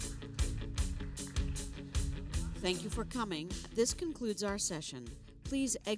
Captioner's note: applause